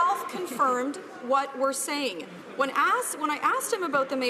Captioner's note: some laughter